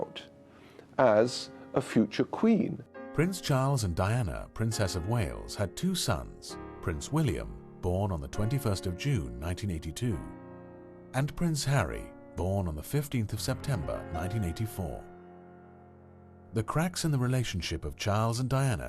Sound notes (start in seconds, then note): 3.1 voiceover